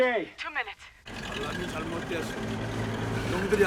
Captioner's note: Korean